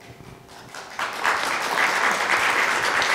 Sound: applause

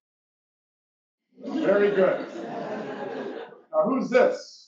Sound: laugh

